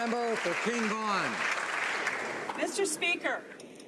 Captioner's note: some Applause